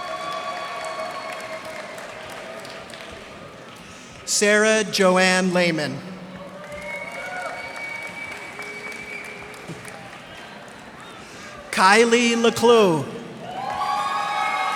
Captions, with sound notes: [cheers and applause] Sara Joann Leaman. [cheers and applause] Kylie LeCloux.